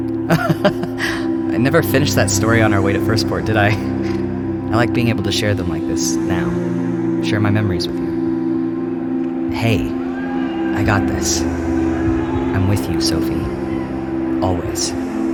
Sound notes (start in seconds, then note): 0.2 laugh; 9.2 serious and calming